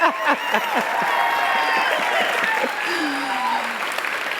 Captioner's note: laughter; applause